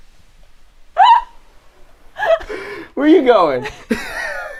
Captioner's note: laughing